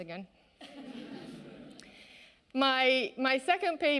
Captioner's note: audience laughing